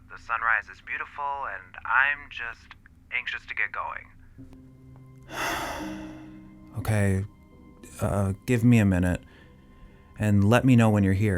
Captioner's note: sigh